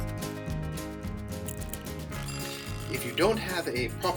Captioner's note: timer rings